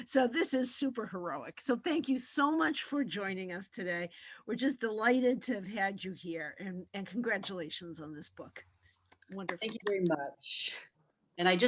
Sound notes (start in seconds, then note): 9.2 clapping